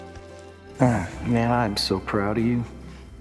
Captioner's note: sighs